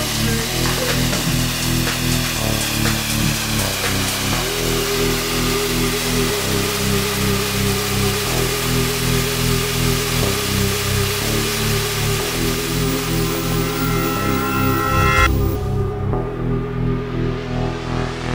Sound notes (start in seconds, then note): 0.2 sound of Merlin III for sale engine run-up; 12.0 sound of CB Aviation extro logo